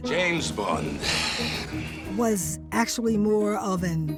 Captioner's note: sighs